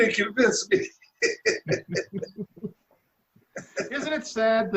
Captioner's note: laughing